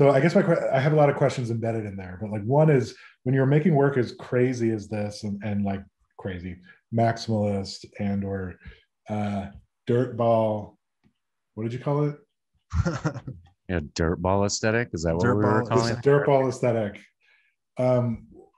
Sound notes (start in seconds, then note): 12.7 laughing